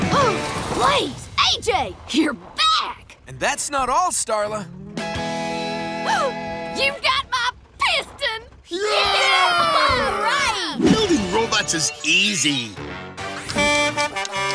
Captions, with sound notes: Blaze, AJ! You're back! And that's not all, Starla. [gasping] You've got my piston! [cheering] Building robots is easy.